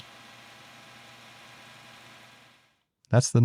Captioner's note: machine whirring